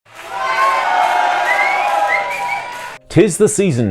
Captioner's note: applause